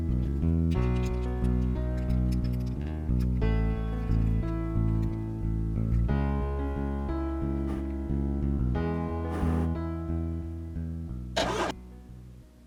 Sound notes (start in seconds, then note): 7.3 whir; 11.4 gear Whir